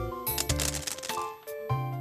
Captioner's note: pebbles drop